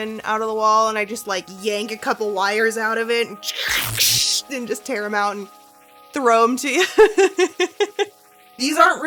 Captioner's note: tearing sound; chuckles